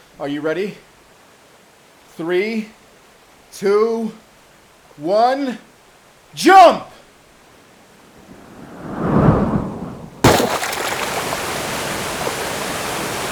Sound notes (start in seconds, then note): 8.1 whoosh; 9.9 splash